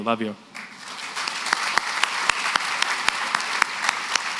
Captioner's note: applause